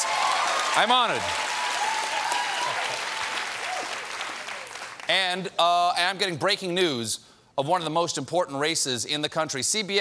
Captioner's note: cheers and applause